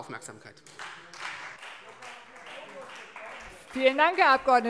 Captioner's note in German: Beifall Freie Demokraten